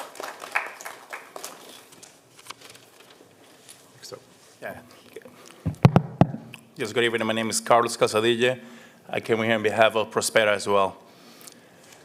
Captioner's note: applause